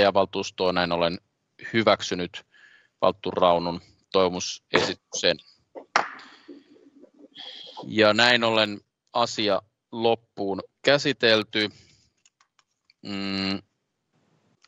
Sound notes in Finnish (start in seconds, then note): 6.0 nuijan kopautus